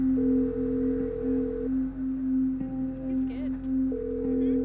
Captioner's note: phone ringing